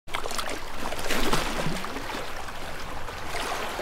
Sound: water splashing

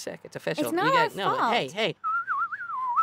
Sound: whistles

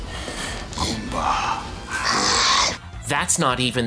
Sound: Toad Goomba growls

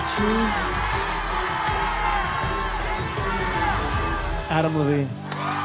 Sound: cheers and applause

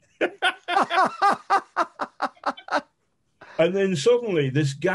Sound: men laughing

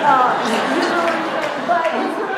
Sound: laughter

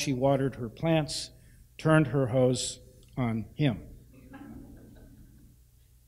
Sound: laughter

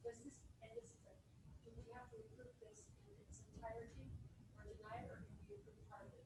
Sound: woman speaks away from microphone

